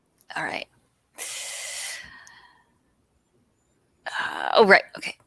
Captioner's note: inhales